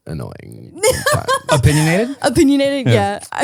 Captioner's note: laughing